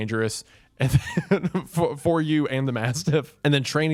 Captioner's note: laughs